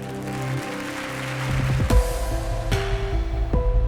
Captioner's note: audience applauds